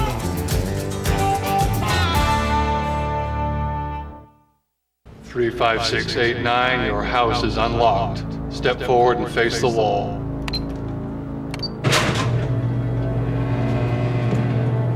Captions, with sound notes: 3-5-6-8-9, your house is unlocked. Step forward and face the wall. [electronic beeps] [door clangs]